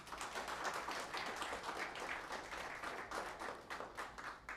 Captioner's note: applause